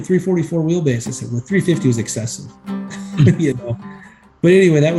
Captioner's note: chuckles